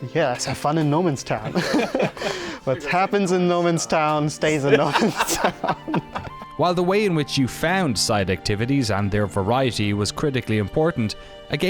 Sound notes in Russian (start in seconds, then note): 0.1 смеется; 5.6 смех